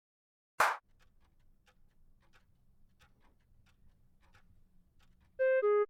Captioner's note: sound of many clocks ticking out of sync